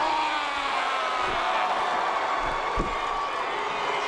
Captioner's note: Reigns shouts